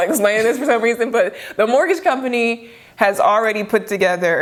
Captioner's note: laughs